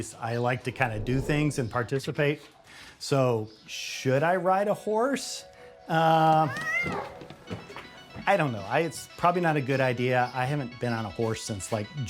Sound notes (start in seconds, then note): 6.4 cat meows